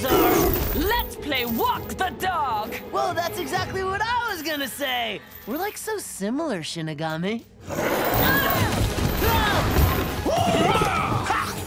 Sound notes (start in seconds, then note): 7.8 screaming, grunting; 10.8 grunting